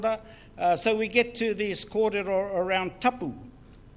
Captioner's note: foreign Language